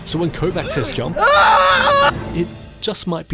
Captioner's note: trevor screams